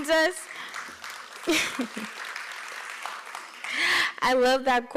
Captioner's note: applause